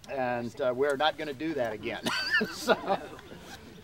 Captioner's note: laughs